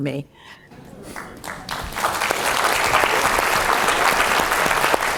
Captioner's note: crowd applauds